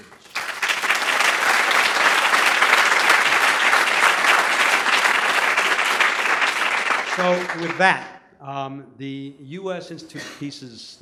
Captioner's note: applause